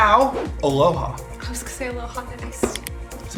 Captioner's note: non-english speech